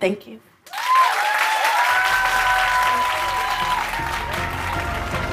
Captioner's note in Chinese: 掌聲